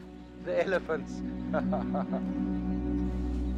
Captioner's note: laughs